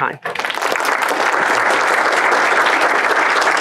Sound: applause

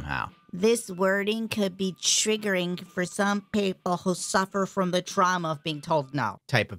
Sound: high-pitched old woman voice

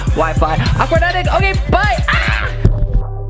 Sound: screams

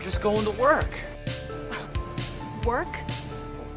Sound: scoffs

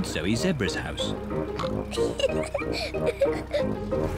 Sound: oinks and giggles

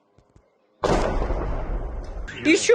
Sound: explosion

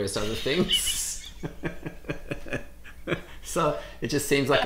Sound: laughs

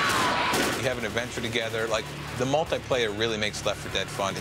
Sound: screaming

